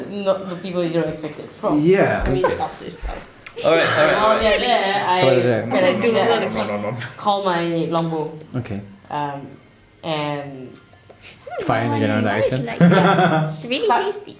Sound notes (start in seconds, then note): 3.4 nom nom nom nom nom…